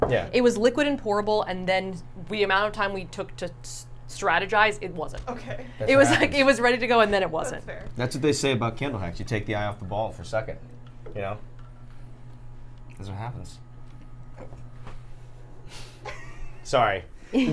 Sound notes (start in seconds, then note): 6.1 laughs